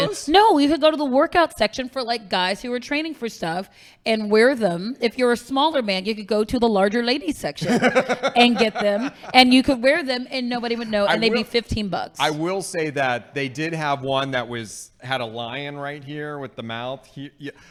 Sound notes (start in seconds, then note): 7.6 laughing